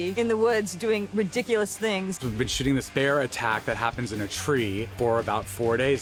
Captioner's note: none